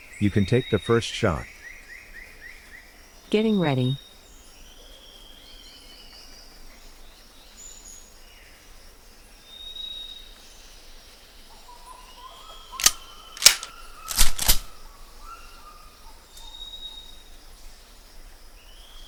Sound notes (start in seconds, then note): 13.4 gun clicking